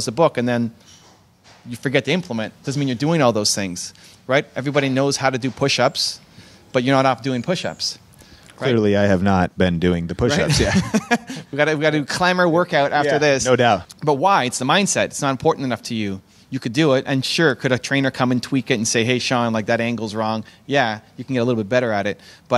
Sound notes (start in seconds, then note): 10.3 laughs